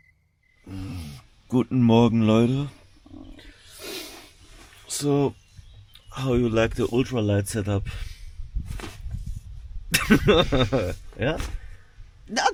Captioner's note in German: gelächter